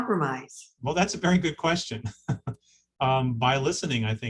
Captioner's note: chuckling